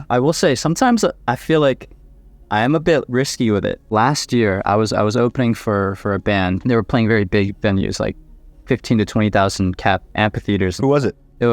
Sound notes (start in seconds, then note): none